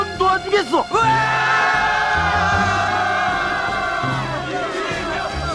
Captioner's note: jubliating villagers